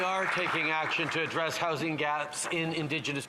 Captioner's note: some Applause